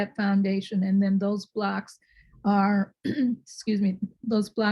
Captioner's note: clears throat